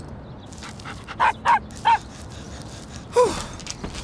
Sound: dog barking

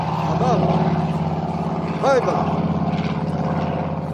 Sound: speaks Uzbek

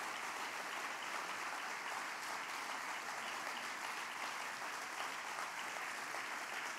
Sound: applause

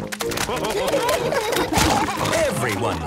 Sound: splashing

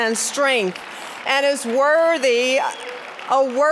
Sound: applause

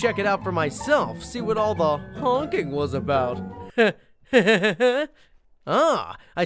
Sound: laughs

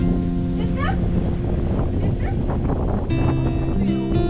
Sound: wind blowing

